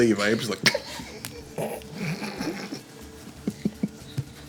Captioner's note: laughing